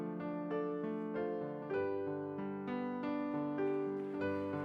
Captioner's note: applause